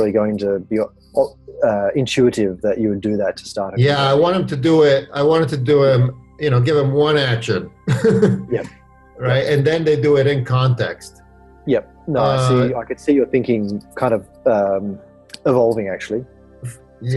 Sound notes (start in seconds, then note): 6.4 laughs